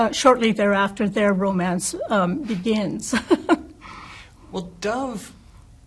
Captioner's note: laughs